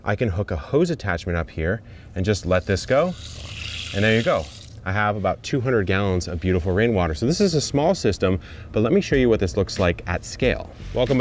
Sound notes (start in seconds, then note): 2.3 water gushes